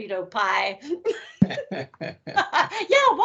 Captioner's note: laughing